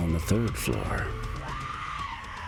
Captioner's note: screams